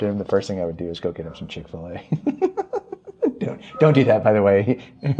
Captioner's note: laughing